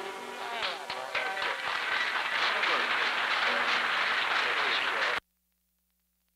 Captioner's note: applause